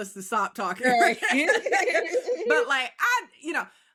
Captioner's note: laughing